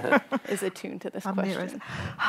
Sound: laughing

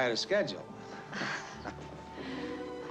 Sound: chuckling

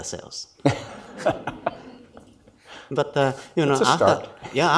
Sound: laughs mildly

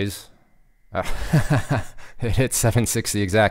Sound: laughing

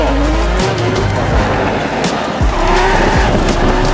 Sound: tow car go swoosh; ddrrrrrr

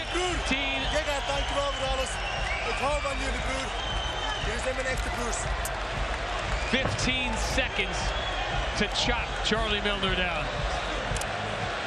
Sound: cheers and applause

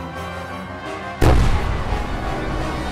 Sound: firework boom

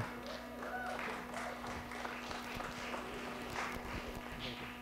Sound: audience clapping

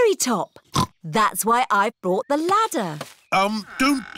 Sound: snorts

